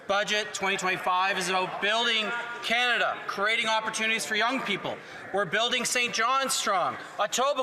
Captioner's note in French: voix de l'interprète